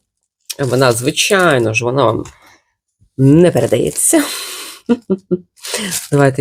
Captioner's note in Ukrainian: сопіння